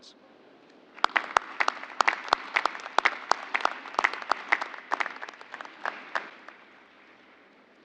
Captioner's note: applause